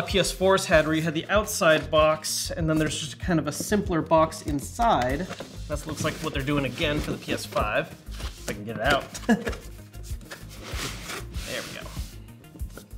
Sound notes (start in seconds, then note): 9.1 laughs; 12.7 gentle electronic music